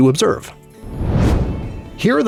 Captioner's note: whoosh